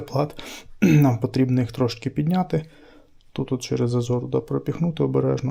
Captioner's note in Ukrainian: прочищення горла